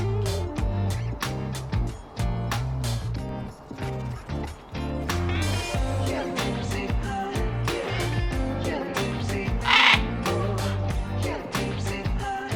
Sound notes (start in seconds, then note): 9.6 bleeerp